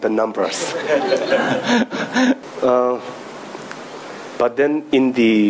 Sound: audience laughing

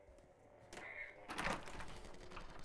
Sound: door opens

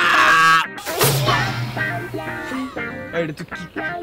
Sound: snaps

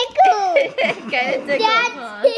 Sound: laughter

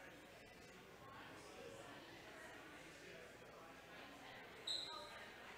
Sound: whistle blows

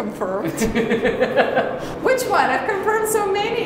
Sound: laughing

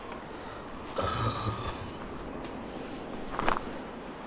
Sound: grunting

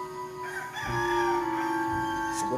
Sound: rooster crowing

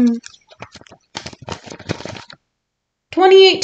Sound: rustling papers

